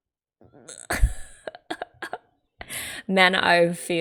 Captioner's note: laughs